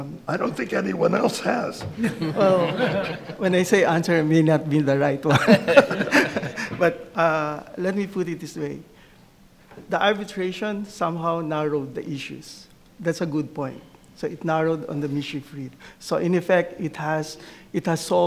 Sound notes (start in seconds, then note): 2.0 audience laughs